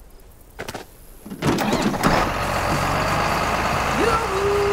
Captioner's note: tractor starts